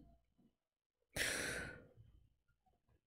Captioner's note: sharp inhale